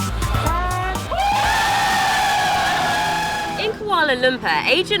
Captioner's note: crowd cheering